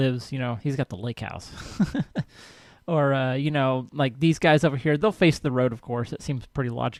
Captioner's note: laughs